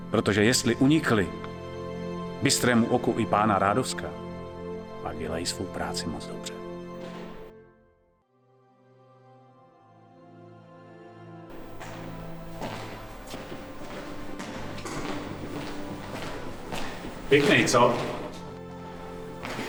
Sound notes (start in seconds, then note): 12.6 sounds of steps